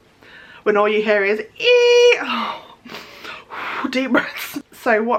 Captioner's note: exhales